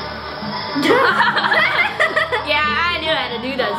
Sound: laughing

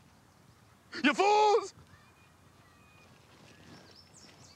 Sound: crying

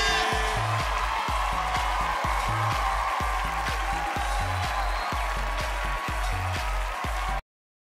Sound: crowd applause

